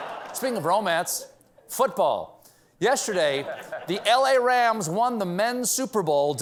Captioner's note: laughter